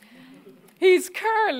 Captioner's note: audience laughing